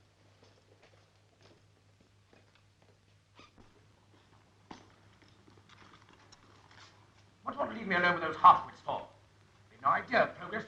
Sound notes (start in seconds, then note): 2.0 floor pattering